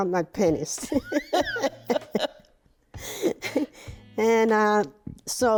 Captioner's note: laughing